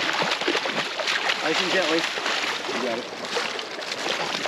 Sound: fish splashing

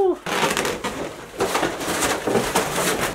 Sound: balloons squeak; loud shuffling

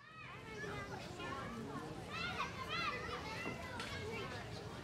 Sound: children chattering

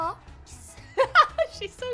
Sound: laughter

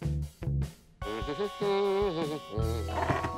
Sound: humming

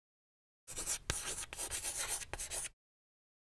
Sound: chalk writing

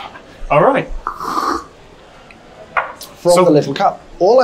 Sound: slurps

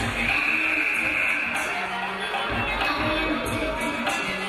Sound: game buzzer buzzes

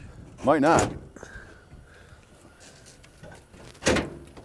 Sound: hood unlatching

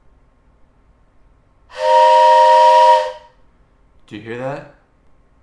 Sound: train horn noise

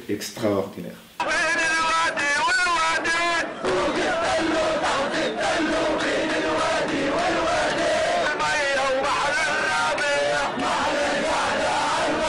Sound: revolutionary chant

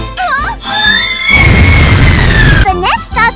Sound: cue explosion

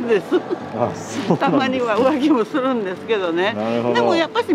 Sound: laughs

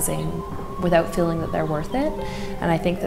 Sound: siren wailing

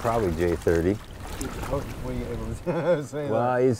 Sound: chuckles

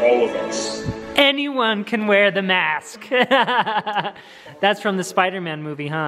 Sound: laughs

